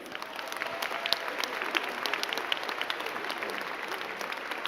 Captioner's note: crowd clapping